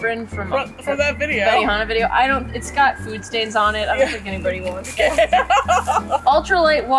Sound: laughs

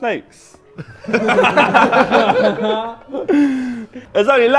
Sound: Sidemen laughing

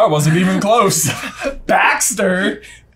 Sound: both laugh

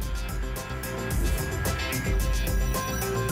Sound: whoosh

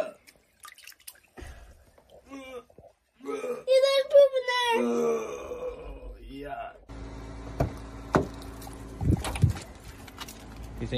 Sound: puking

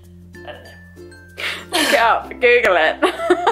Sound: laughing

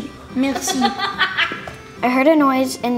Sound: laughter

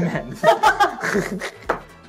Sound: laughs

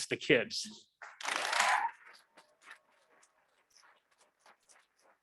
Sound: audience clapping

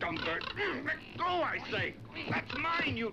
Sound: grunts

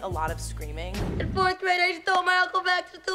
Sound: air whooshes

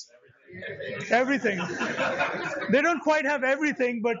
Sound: laughter

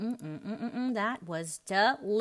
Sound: hums

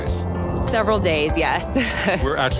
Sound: chuckles

